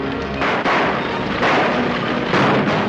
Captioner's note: gunshots